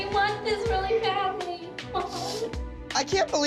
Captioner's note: sniffles